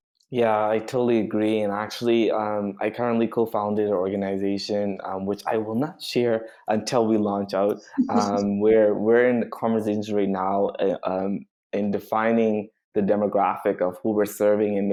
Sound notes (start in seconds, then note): 8.0 chuckles